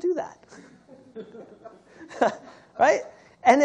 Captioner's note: laughter